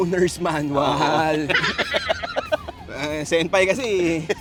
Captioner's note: laughing